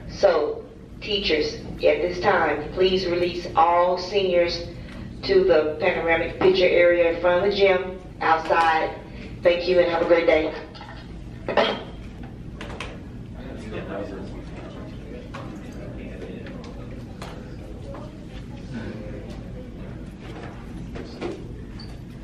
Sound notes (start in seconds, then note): 13.5 students murmuring